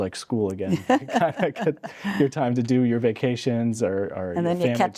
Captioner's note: laughing